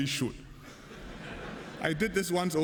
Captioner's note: laughter